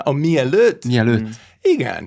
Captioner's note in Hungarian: idegen nyelven beszélve